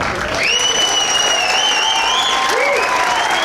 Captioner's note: whistling